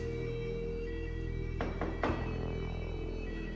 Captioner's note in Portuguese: batida na porta